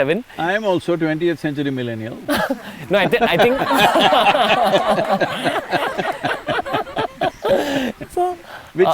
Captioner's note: laughter